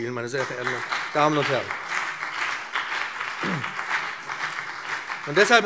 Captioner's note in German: Beifall BÜNDNIS 90/DIE GRÜNEN und CDU